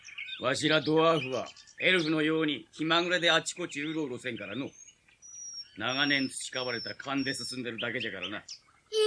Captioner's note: none